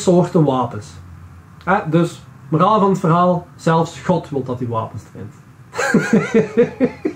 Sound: laughs

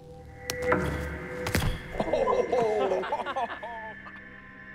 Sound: all laugh

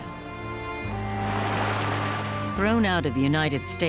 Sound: waves crashing

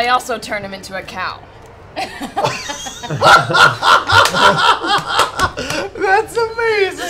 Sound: laughter

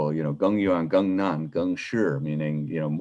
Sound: speaking in a foreign language

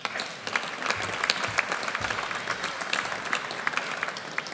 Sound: audience applauds

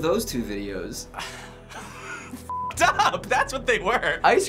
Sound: suppressed laughter

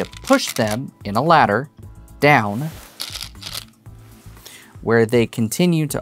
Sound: stones rattling; stones rattling

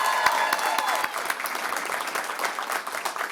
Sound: applause; cheering

